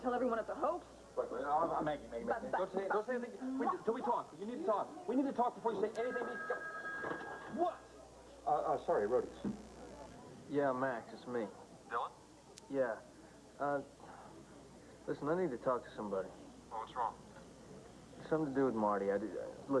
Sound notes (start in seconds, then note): 8.1 telephone rings